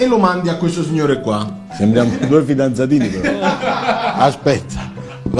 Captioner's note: laughs